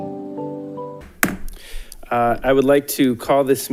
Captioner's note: gavel banging